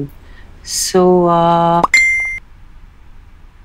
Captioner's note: Notification tone